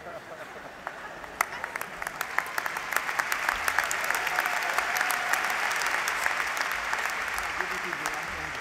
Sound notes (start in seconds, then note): 0.7 applause